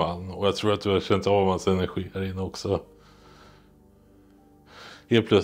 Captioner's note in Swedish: none